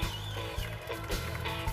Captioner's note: cheers and applause